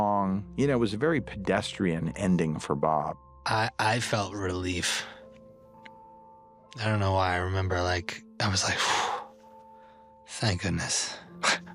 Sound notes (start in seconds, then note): 8.7 exhales sharply